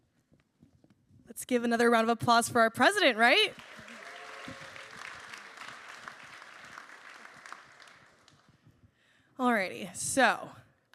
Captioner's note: applause